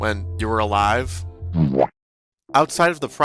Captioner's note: boowomp SFX